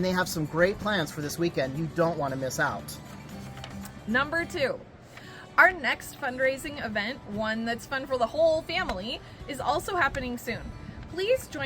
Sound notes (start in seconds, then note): none